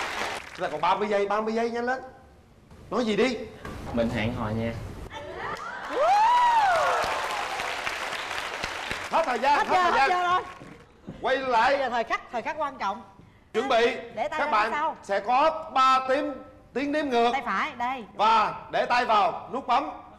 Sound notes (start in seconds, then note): 5.8 claps and applauses